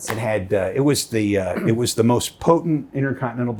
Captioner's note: slapping knees; clearing throat